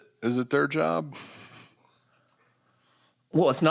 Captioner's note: chuckles